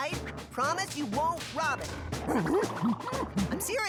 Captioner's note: gibbers sincerely